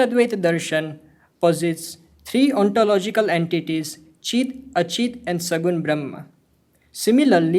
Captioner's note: hindi; hindi